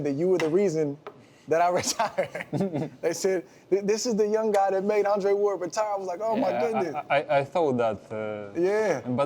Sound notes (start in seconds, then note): 1.8 laughs